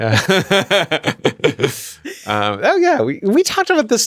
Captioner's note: laughter